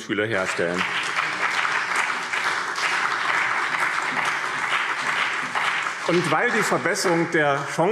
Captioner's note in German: Beifall BÜNDNIS 90/DIE GRÜNEN und CDU